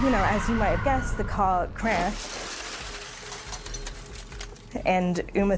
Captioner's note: glass shattering